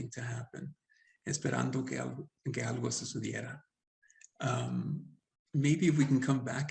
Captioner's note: speaking Spanish